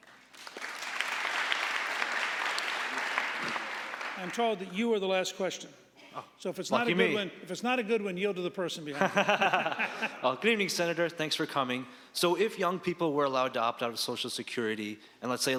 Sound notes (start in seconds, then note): 0.0 audience applauding; 8.9 laughing